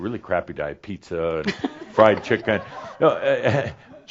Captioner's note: some laughter